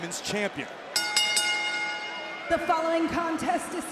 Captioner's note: bell rings